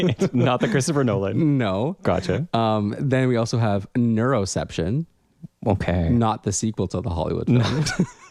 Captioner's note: laugh; laugh